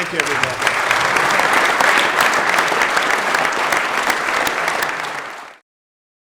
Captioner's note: applause